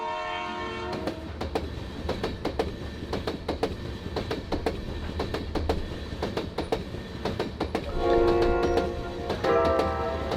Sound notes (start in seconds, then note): 1.2 train clacking